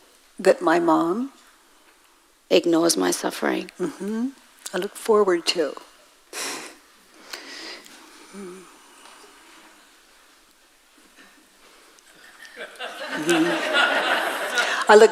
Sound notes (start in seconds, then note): 6.4 woman in white laughs; 12.2 audience laughs